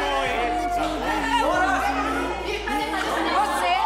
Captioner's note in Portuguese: falatório